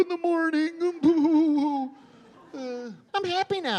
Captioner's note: sobbing